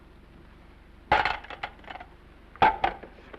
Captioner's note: phone clatters